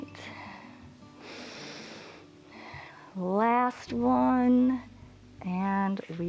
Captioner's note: inhales and exhales